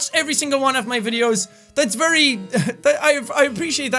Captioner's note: chuckles